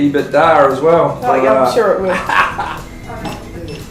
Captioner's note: laughs